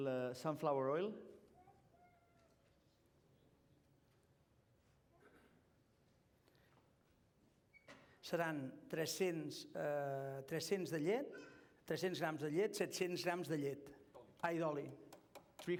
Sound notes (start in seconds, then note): 9.0 non-english speech